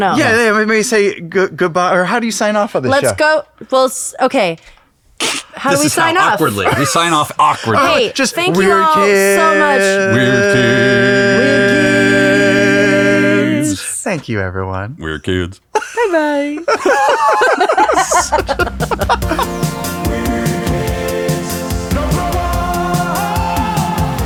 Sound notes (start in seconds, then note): 15.7 laughing